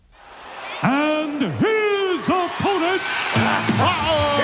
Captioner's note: audience cheering